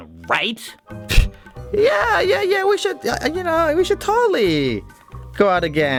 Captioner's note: scoffs